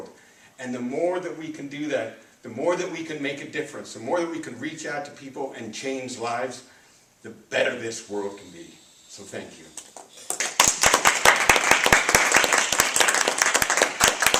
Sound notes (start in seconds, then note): 10.2 applause